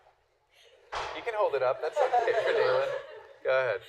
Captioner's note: laughter